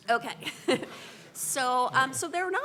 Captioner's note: laughs